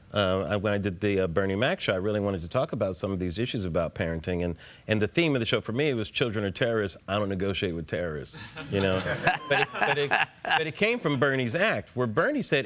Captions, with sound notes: When I did The Bernie Mac Show , I really wanted to talk about some of these issues about parenting and the theme of the show for me was, "Children are terrorists. I don't negotiate with terrorists", you know? (LAUGHTER) But it came from Bernie's act where Bernie said,